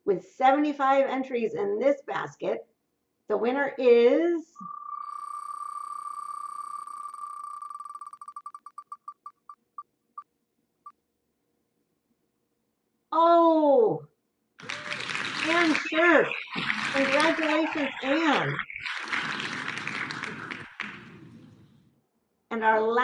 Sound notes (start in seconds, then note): 19.5 clapping